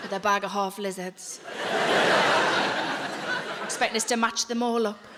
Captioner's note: audience laughing; audience laughing